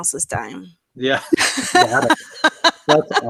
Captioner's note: laughter